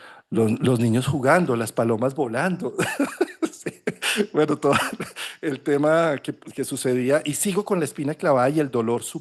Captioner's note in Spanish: risas